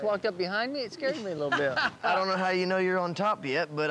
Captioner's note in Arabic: يضحك